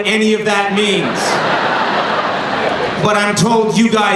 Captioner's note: laughing